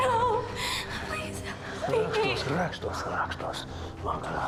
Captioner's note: speaking Slavic language